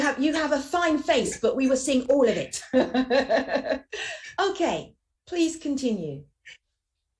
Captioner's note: laughs